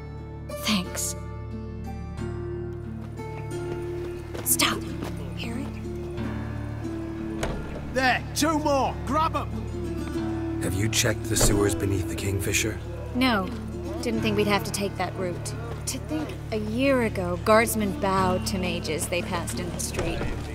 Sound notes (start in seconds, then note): 4.7 hushed